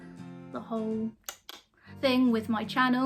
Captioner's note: tongue popping sound